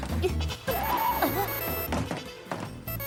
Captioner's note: ringtone